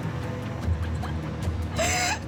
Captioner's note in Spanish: Sollozos